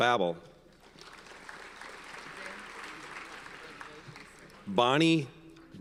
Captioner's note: audience applauds